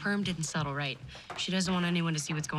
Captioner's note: thumping